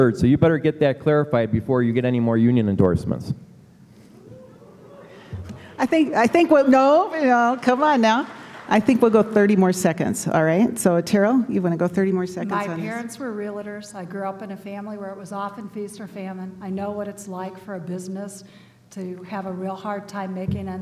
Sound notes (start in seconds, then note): 3.3 applause